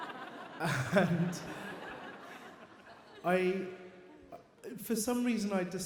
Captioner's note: audience laughs; chuckles